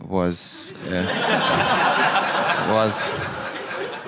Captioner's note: laughter